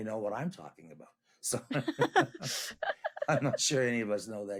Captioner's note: both laughing